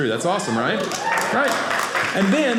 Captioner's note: audience cheering